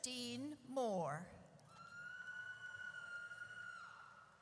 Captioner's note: audience cheers